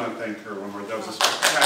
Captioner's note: applause